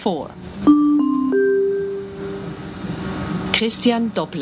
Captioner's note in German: Gong